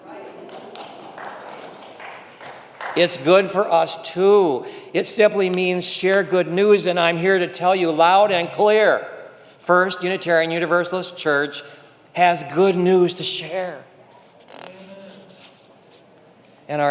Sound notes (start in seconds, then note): 0.1 congregation clapping